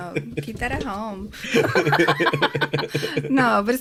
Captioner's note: both laugh